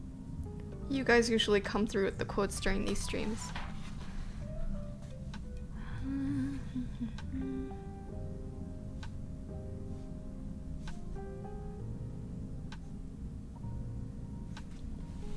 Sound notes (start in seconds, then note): 5.7 humming